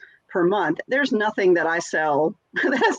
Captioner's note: laughs